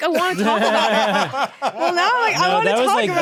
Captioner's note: laughing